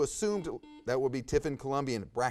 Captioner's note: buzzer buzzes